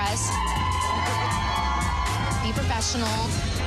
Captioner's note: cheering